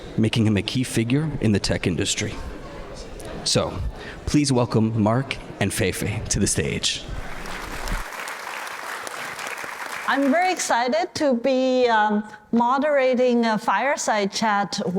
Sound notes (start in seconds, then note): 7.2 applause